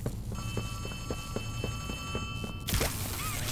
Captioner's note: footsteps; door creaking; footsteps